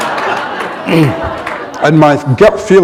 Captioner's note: laughter